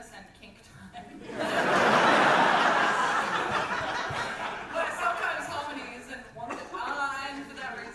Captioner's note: audience laughter